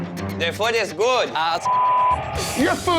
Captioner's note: beep